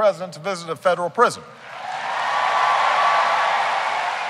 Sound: cheering

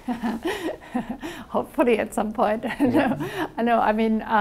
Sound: laughs

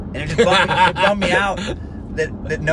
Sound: laughter

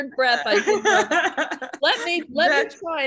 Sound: laughing

